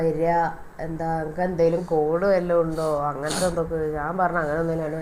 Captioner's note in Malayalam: ചീറ്റുന്നു